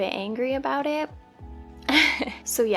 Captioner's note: laugh